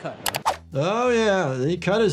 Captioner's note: keyboard clicking